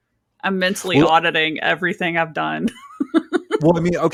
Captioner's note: laughs